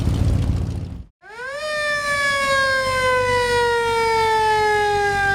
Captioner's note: siren blaring